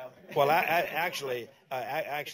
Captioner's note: laughter